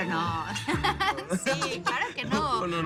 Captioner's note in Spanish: Risas